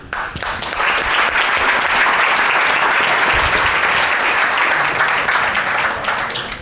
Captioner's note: audience applause